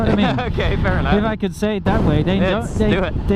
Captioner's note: laughs